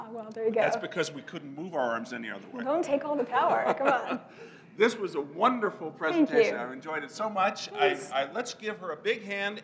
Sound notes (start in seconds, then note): 3.4 laugh